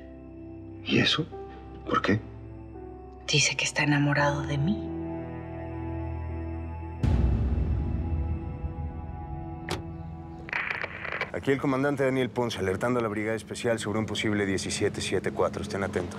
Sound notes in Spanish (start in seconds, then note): 10.5 estática del radio